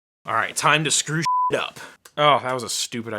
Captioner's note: beep